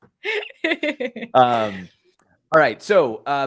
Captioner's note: laughter